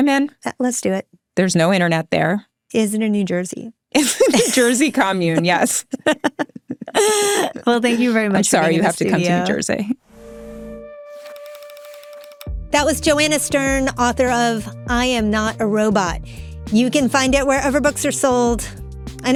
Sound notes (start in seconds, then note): 4.0 laughs; 5.2 people laughing; 11.2 light clicking